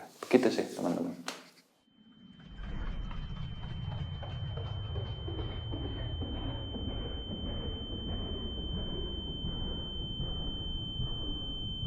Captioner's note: whoosh